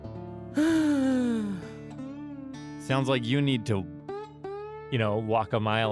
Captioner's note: sighs